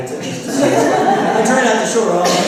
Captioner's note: laughter